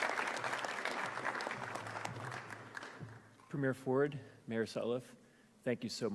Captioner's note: applause